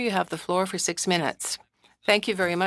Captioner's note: speaking French